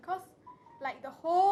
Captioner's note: phone ringtone